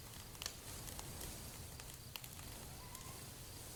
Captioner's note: fire crackling